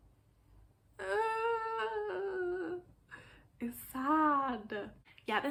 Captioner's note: sad noises